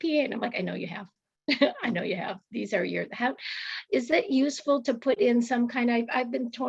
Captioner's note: laughter